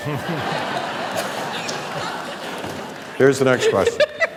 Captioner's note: audience laughs